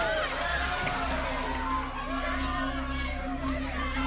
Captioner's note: people shouting